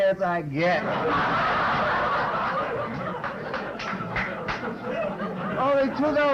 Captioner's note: laughter